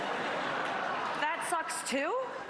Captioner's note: laughter